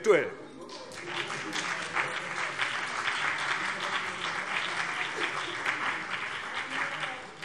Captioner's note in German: Beifall CDU und BÜNDNIS 90/DIE GRÜNEN